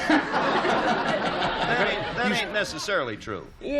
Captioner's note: laughter